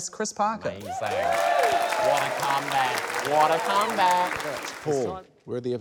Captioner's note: cheering, applause